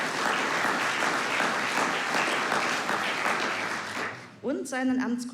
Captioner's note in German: Applaus